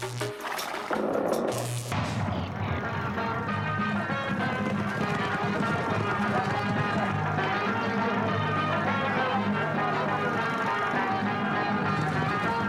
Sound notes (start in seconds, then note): 0.3 gunfire exploding; 0.3 horse puffing; 2.8 horses clip-clopping; 2.8 upbeat instrumental music